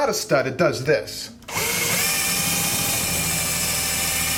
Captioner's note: drilling